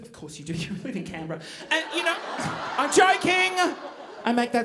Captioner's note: audience groaning